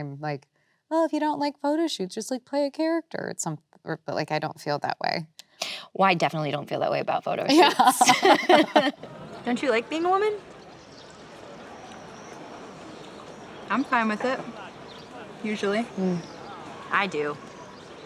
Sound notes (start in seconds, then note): 7.5 both laughing